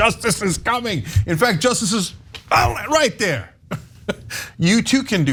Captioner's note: laugh